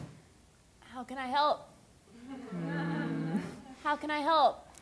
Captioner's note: laughter